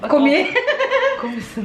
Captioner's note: laughing